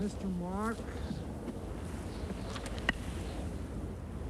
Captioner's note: wind howling